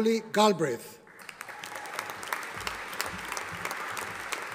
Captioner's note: audience applauding